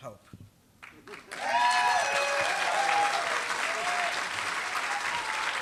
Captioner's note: applause